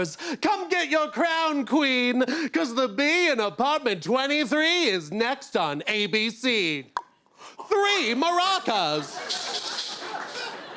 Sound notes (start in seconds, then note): 6.8 pop!; 9.2 maracas shake